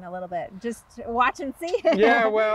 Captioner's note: laughing